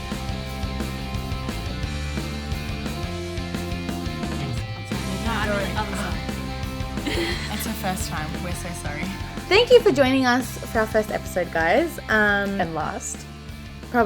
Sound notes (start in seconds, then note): 4.4 murmurs